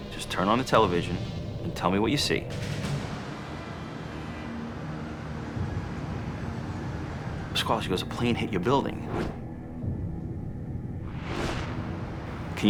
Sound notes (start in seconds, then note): 3.8 intense music; 3.8 sirens wailing distantly